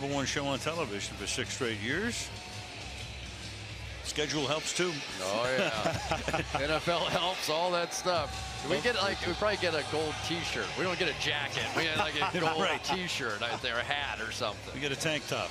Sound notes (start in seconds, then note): 5.5 laughs